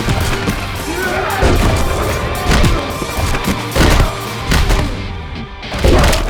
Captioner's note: blows thudding; Esteban growls